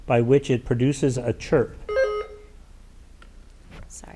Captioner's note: button buzzing